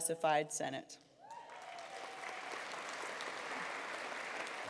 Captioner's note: applause